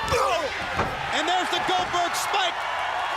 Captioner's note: crowd chatter